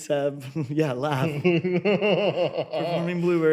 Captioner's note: laughs